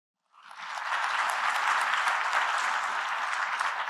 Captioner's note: applause